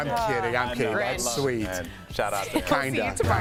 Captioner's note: laughter